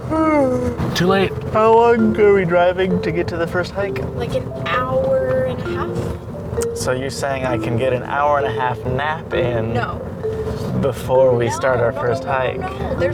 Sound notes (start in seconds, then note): 0.0 yawns; 0.0 yawning